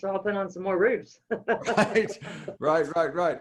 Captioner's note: laughs